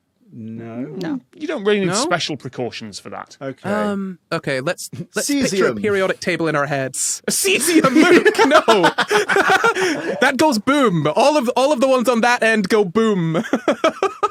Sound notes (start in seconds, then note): 7.4 laughs; 8.6 cackles; 13.4 giggle